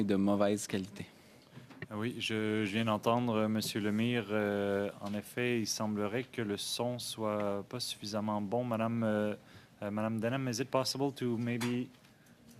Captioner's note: speaking French